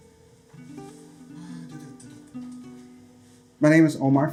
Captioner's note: hums tune